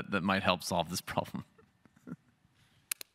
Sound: laugh

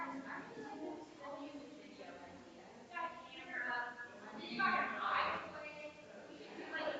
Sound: people chattering distantly continues

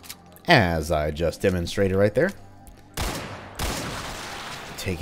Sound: Colt firing, Gasbag exploding

